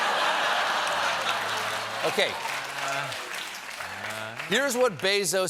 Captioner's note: laughter